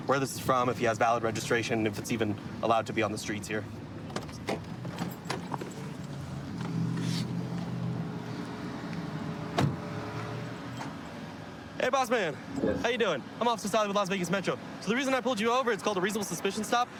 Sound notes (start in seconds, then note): 5.8 distant traffic hum